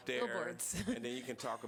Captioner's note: laughter